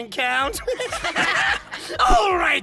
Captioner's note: evil giggles